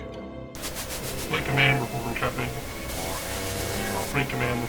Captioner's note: Static